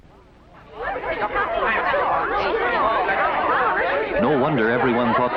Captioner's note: commotion and chattering